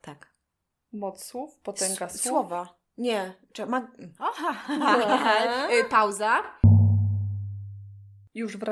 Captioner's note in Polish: śmiech